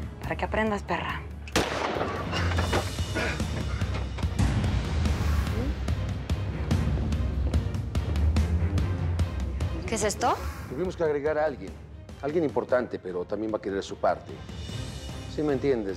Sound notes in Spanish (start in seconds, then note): 1.5 Disparo